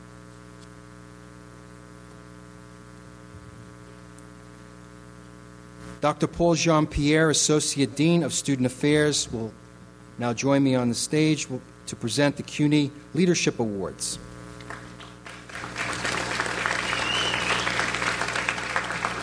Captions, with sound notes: Dr. Paul Jean-Pierre associate dean of Student Affairs will now join me on the stage to present the CUNY Leadership Awards. (audience applauds)